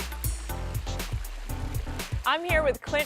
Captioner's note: water sound